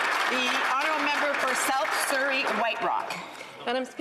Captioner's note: some Applause